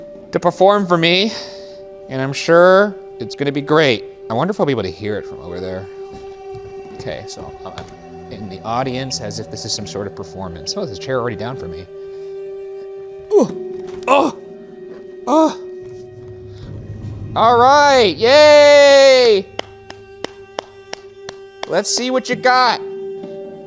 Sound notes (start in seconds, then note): 13.9 grunts; 19.0 applauding